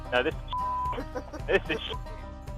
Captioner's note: beep